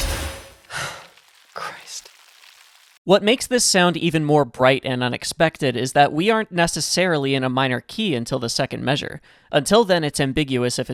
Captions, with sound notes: *sigh* Christ. What makes this sound even more bright and unexpected is that we aren't necessarily in a minor key until the second measure. Until then it's ambiguous if